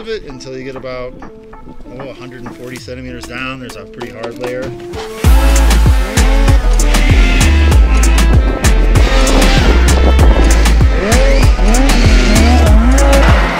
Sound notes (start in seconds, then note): 5.0 engines revving; 5.1 upbeat music